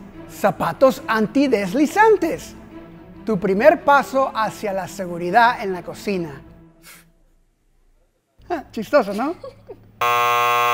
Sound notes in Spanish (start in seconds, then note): 9.1 Ríe